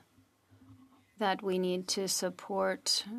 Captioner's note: speaking French